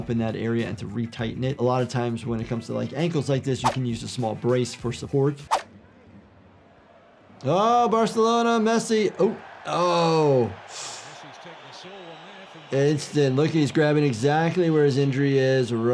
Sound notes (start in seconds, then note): 10.6 gasping